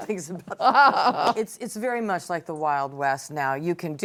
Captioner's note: laughter